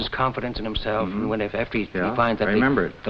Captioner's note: Ed hums agreeingly